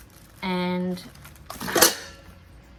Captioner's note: loud clatter